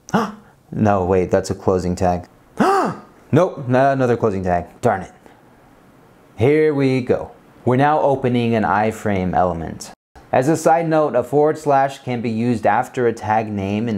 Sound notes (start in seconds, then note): 0.1 gasps; 2.6 gasps louder